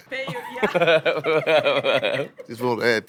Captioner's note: group laughing